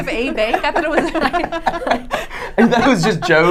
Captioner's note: laughing